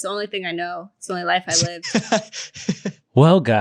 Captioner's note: laughing